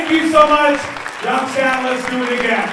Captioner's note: audience cheers and applauds